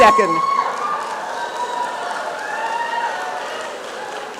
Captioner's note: applause and cheering